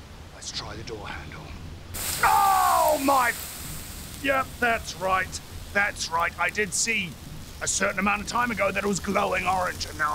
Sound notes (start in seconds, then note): 3.3 sizzling